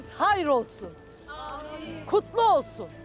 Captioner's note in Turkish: Hep bir ağızdan